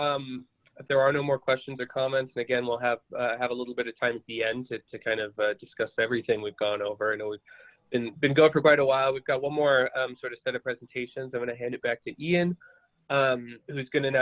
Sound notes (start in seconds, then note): 8.0 glitch interferes with audio